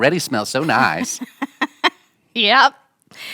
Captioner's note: laughing